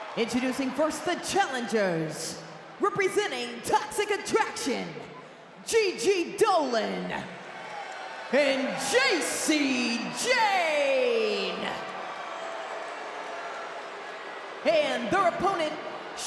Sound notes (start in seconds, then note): 11.2 crowd booing